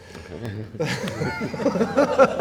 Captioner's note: laughs